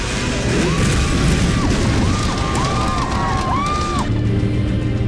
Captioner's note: people screaming